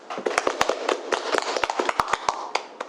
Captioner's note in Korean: 박수